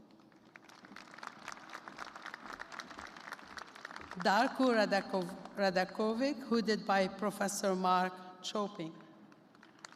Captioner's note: applause